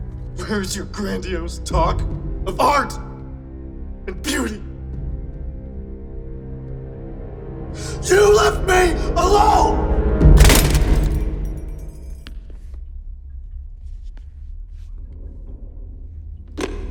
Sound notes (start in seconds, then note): 10.4 metal parts clinking; 10.4 cracking plastic and metal